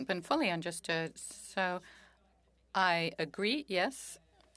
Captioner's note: speaking French